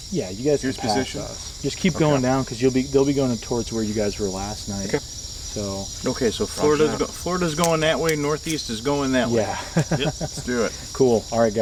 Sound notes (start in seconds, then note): 9.0 laughing